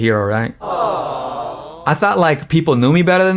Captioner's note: aww sound effect